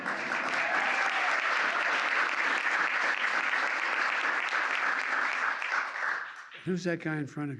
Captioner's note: applause